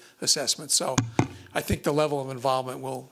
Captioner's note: knocking